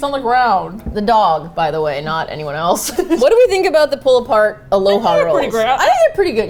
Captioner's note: laughs